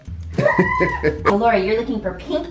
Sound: laughs

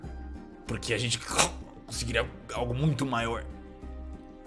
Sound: coughs

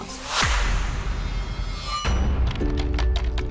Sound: metal clanging, keys clicking

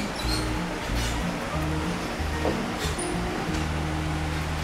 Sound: bars screeching

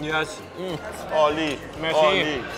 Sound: speaking foreign language

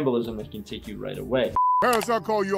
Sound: background tonal beeping

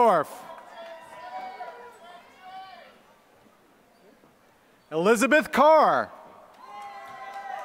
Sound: applause; applause

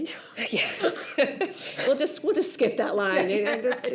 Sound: chuckles

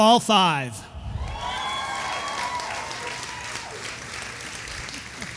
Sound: audience applauding

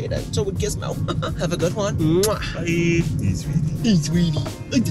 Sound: kissing sound

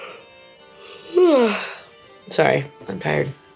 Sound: yawn

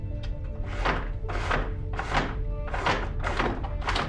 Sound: blind lowers

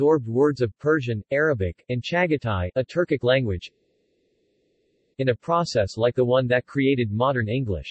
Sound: a Turkic language

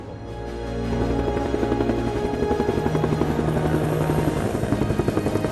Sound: helicopter whirring

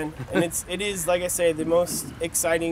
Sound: laugh

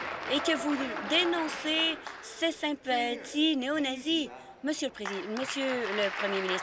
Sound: some Applause

